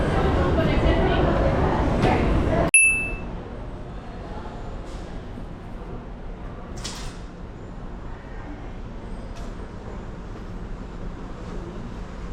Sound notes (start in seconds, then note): 5.8 train